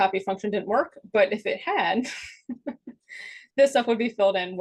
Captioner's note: chuckles